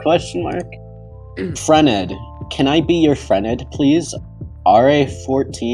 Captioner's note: clears throat